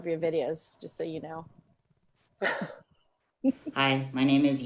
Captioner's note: laughs